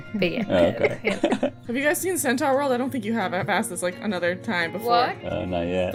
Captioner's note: laughter